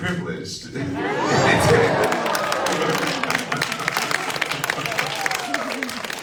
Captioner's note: audience laughs and applauds